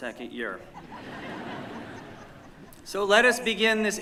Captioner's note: laughter